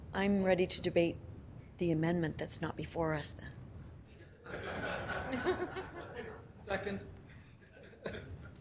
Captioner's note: laughing